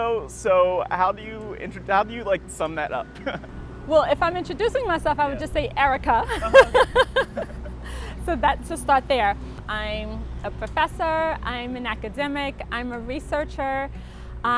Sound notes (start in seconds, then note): 3.1 laughs; 6.2 laughs